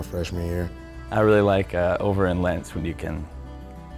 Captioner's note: voiceover